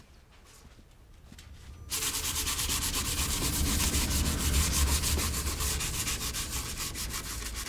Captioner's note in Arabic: كشط ورق الصنفرة